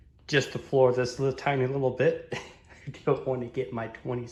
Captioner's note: chuckles